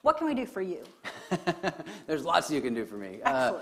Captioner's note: laughs